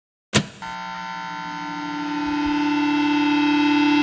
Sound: electronics buzzing

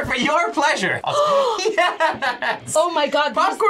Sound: laughs; gasps

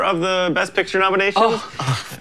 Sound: scoffing

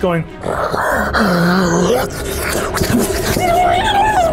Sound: deep groaning

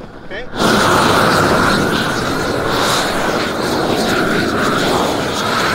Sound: air whooshes against plastic

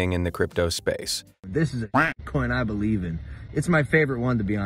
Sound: quack

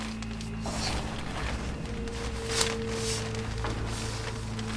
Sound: tent rustling

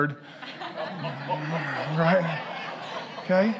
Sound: congregation laughing

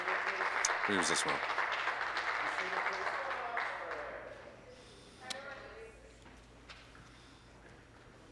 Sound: applause

